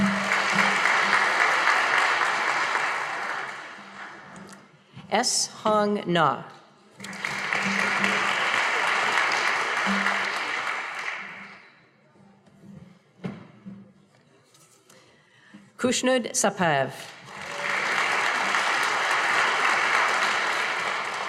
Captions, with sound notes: (audience applauding) S. Hong Na. (audience applauding) Kush-nood Som-pav. (audience applauding)